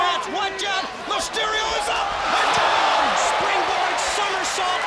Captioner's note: crowd cheering